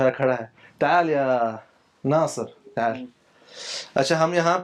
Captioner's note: Arabic